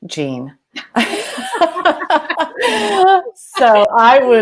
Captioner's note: ladies laughing